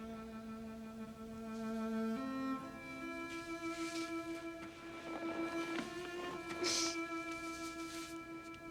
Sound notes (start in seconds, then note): 2.0 Bess sobbing; 2.0 gentle orchestral music